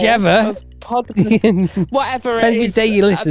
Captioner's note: laughs